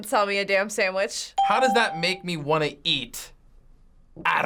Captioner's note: ding